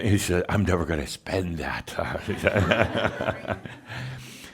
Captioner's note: some chuckles